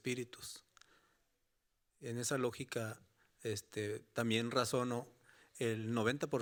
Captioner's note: speaking Spanish continues